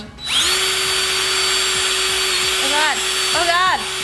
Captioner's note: drill whirring